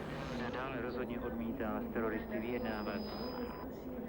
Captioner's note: radio transmission